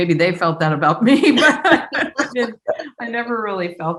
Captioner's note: laughs